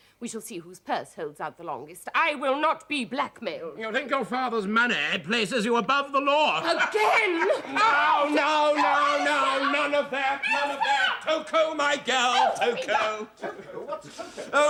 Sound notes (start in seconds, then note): 7.0 screams loudly; 12.4 Epifania keeps screaming